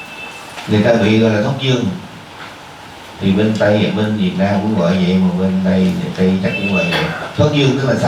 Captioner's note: dripping